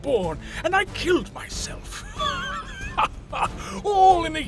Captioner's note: laughing